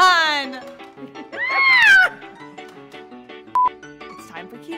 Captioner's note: laughing; screams